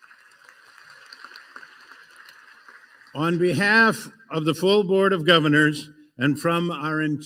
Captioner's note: applause